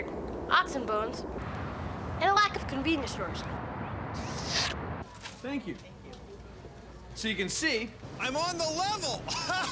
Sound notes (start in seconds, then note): 3.6 slurps; 9.3 laughs